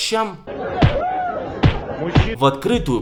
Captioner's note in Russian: Звуки ударов